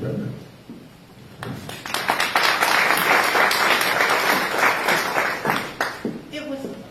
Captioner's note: applause